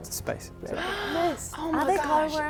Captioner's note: gasp